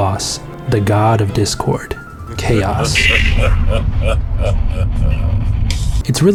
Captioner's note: Chaos laughing villainously